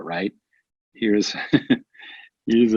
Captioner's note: laughs